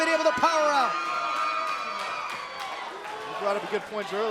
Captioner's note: crowd cheering